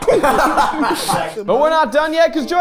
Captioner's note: laughing; group laughing